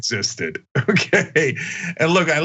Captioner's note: laugh